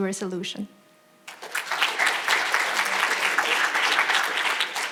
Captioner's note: audience applauding